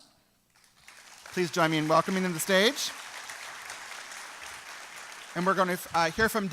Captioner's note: applause